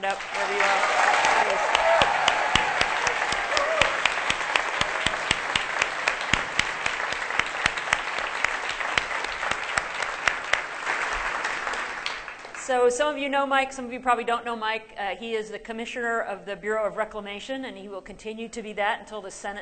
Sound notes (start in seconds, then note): 8.7 applause